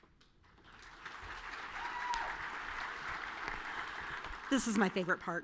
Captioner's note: audience cheering and clapping